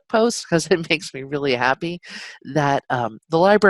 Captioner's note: chuckles